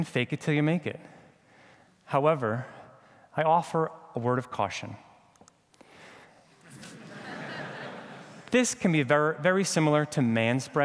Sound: laughter

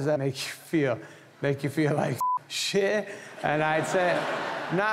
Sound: beep

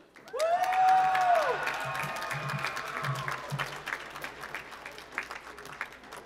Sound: applause

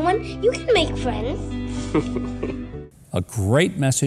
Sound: chuckles

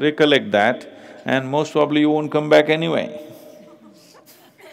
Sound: laughter

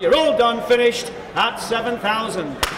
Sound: gavel snapping

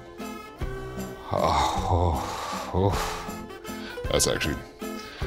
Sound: sighs

